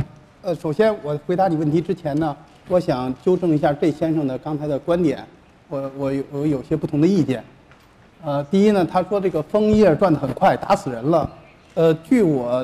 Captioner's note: speaking in Chinese